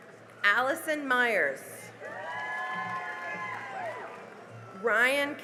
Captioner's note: cheering and applause